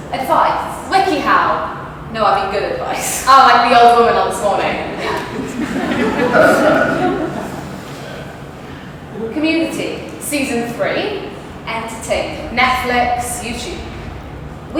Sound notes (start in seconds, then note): 5.0 audlence laughs